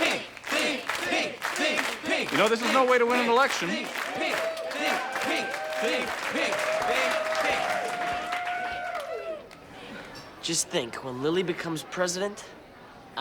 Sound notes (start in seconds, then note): 7.5 cheering